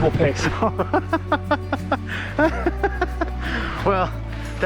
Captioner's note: laughs